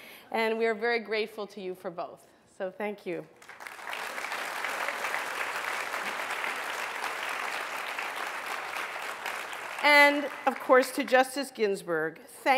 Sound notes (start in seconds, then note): 5.4 applause